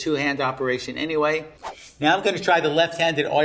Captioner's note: air whooshing